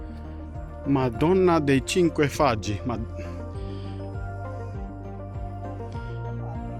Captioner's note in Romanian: vorbind italiană